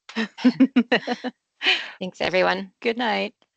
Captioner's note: people laughing